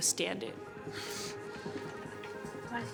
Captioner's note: sniffling